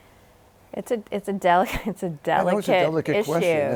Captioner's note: laughs